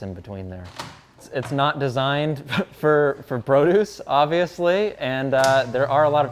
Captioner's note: laughs